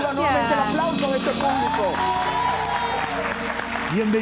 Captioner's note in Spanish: Aplausos